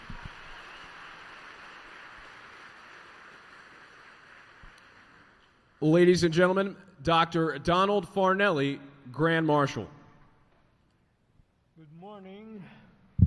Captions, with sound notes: [ APPLAUSE ] >> Ladies and gentlemen, Dr. Donald